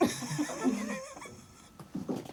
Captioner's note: laughing